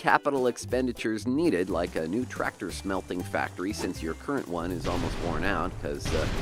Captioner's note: tractor explodes